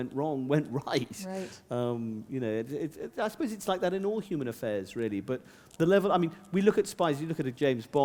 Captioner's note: chuckle